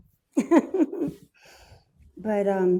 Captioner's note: laughs